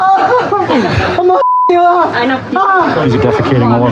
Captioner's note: waililingng